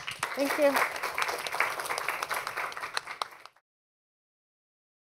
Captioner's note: applause